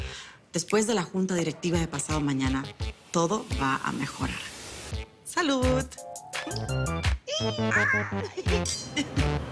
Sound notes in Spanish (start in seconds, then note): 7.4 Exclamaciones; 8.3 Tintineo de copas